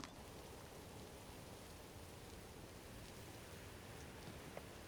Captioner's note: birds chirping